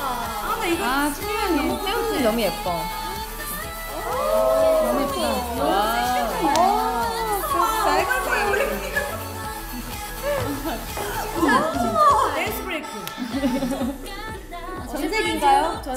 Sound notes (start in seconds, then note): 9.2 ha ha ha